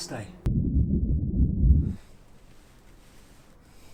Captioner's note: heart beating